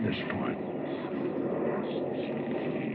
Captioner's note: none